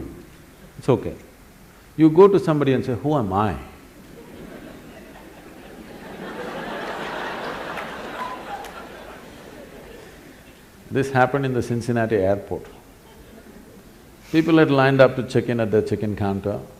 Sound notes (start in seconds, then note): 4.0 laughter; 5.4 笑聲